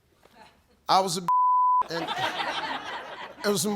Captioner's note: beep